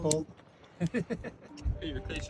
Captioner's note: laughing